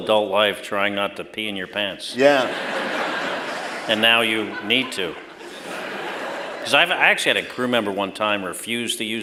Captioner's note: laughter